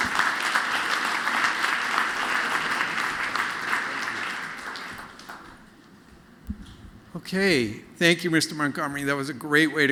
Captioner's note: applause